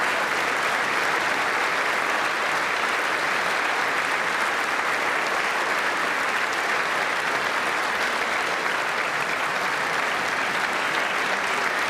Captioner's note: applause